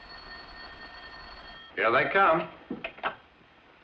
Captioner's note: phone rings